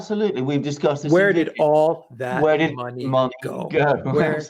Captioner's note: laughing, speaking simultaneously